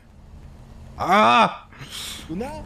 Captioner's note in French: il rit; il crie